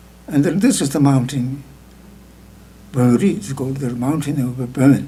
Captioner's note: speaking tibetan